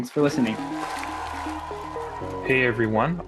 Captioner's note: applause